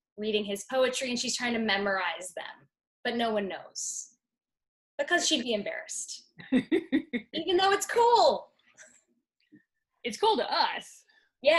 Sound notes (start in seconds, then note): 6.4 laughing